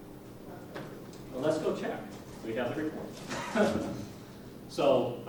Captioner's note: laughs